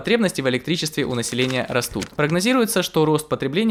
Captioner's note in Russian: звук перелистывания бумаги